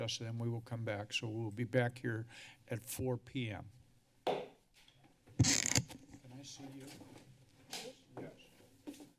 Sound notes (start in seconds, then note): 4.0 hits gavel; 5.4 mic noise; 8.9 silence